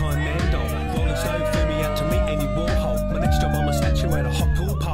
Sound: group cheering

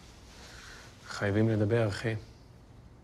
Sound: speaks Hebrew

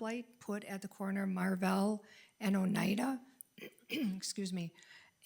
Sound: clears throat

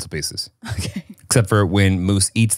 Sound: laughs

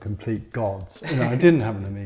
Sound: laughs

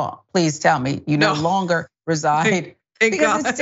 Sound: laugh

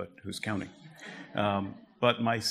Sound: audience laughter

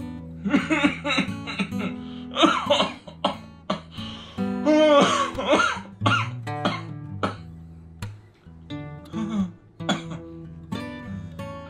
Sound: cough

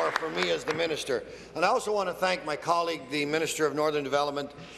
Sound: applause

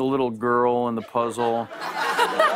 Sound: laughter

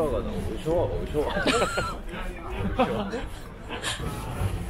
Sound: laughing

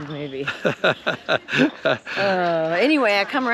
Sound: laughing amusingly

